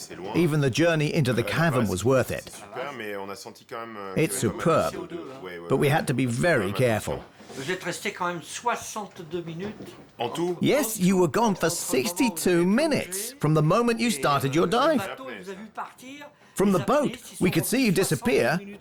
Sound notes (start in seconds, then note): 7.4 speaking French